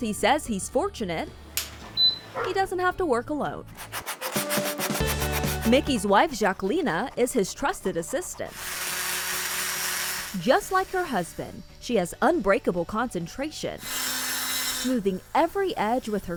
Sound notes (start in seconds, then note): 4.1 file sanding